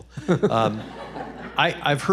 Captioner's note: audience laughs